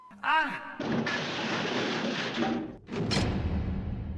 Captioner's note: loud crash